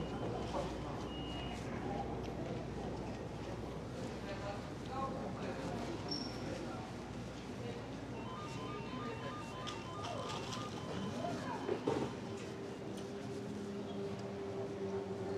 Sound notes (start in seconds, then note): 8.1 phone ringing; 12.8 eerie music